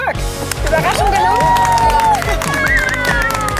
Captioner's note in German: Jubel, Applaus